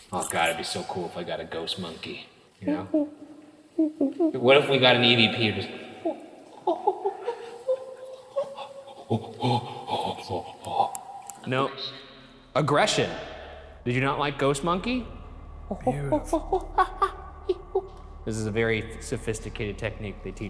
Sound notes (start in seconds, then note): 3.8 mimics monkey call; 7.4 mimics monkey call; 16.2 mimics monkey call